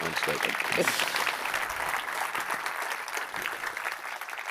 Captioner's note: applause